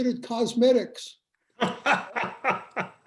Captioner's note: laughter